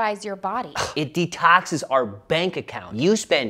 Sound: sighs

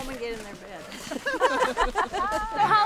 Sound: laughing

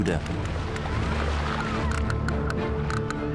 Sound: whales clicking rapidly

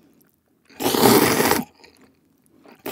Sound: slurp

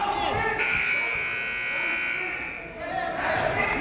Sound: buzzer

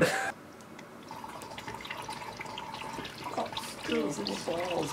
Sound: liquid flowing

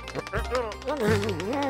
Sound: grumbling

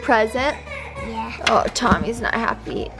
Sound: baby crying

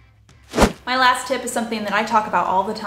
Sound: air whooshing

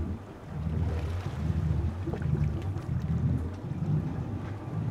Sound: water lapping

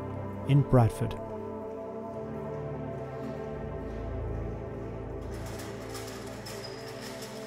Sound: gentle music; door rattling

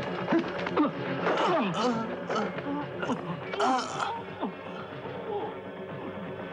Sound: groaning; men grunting

